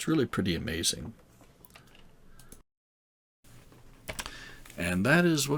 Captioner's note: silence